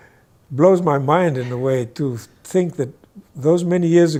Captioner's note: guy laughs